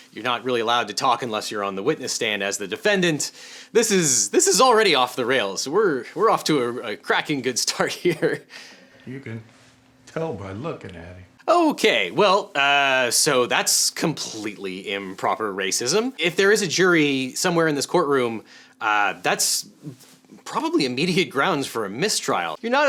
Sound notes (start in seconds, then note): 8.0 chuckles